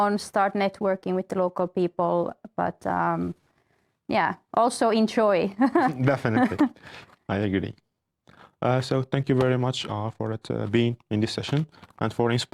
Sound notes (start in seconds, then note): 5.7 laughs